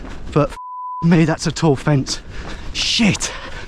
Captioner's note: beep